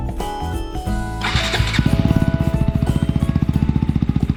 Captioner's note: idling sound check